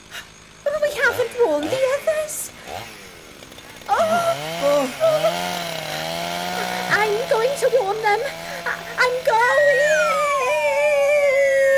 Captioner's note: sound of chainsaws get louder; sound of her going down a slide